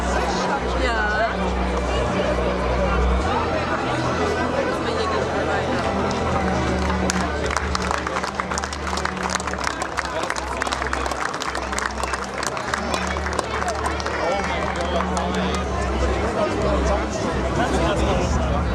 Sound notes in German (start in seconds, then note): 5.8 Applaus